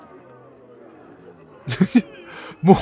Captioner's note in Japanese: 笑い